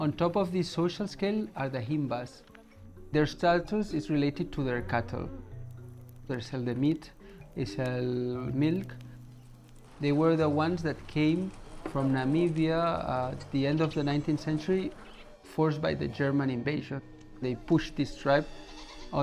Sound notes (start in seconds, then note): 5.7 fire crackling